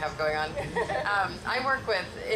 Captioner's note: laughs